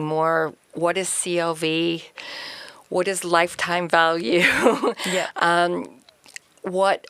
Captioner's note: chuckles